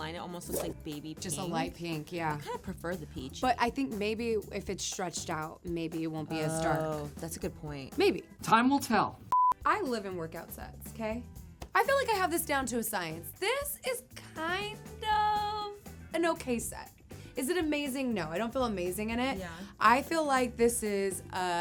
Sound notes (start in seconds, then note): 9.4 screen beeps